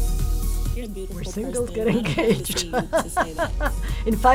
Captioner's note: laughs